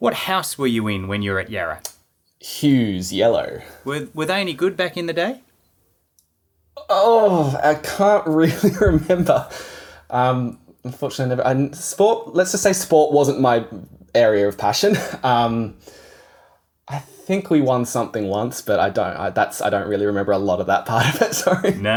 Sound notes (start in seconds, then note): 8.3 laughing; 21.0 laughing